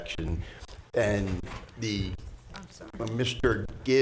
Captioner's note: board chatting quietly